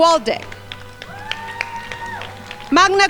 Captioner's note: crowd applauding